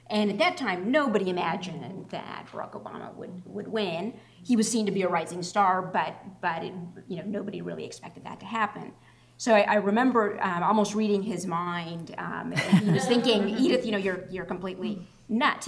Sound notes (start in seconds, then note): 12.5 laughter